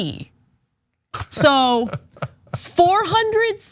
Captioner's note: laugh